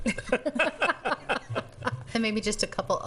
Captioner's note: laughing